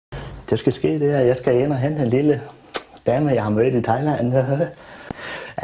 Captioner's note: kiss